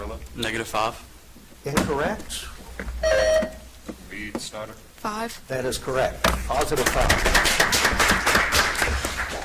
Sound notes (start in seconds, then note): 3.0 buzzer chimes; 6.7 audience applauds